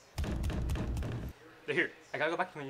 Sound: knocking

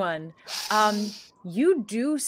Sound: sniffing

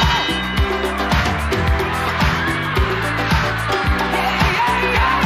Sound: people cheering

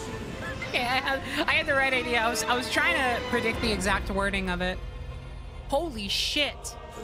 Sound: laughing

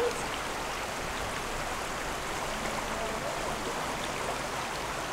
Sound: river water running

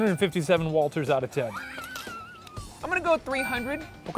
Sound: laughing

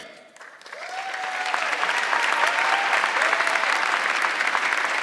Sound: audience clapping

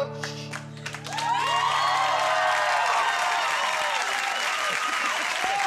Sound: crowd applauding

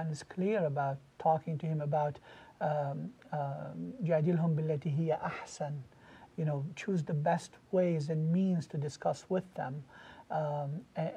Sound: Arabic

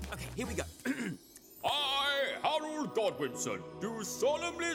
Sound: clears throat

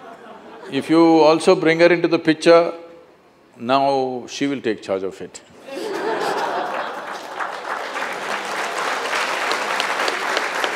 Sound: laughter and Applauds

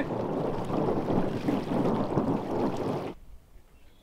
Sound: water rushing

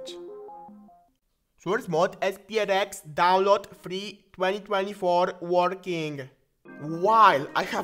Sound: indian accent

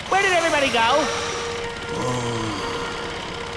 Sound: relaxed, meditative sigh

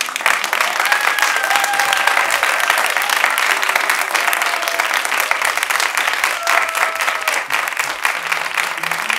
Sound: applause; applause continued

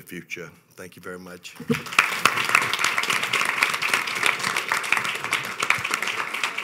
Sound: audience applauding

